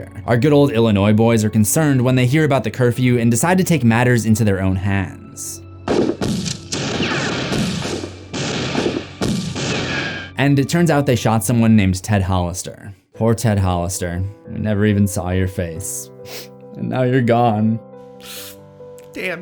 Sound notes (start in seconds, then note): 10.3 gunshots firing; 16.7 sobs; 18.3 somber music